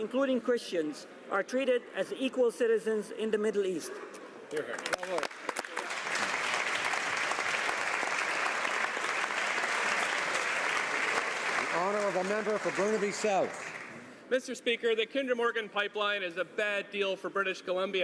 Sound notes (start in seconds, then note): 12.8 some Applause